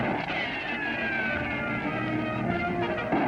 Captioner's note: gunshots